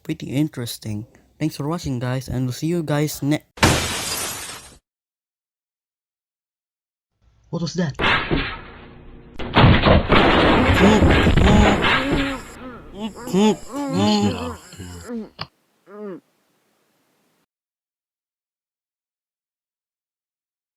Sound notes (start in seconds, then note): 3.6 window breaks; 9.6 muffled screams and really loud kidnappers